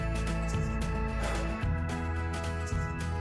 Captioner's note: sighs